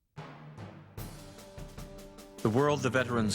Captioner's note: voiceover